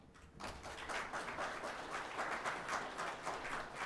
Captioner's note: audience clapping